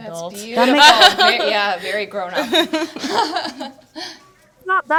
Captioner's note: panelists laughing